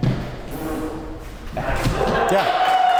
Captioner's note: mimics fart buzzing